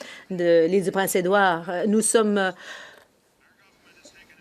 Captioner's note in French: voix de l'interprète